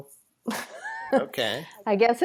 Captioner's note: laughs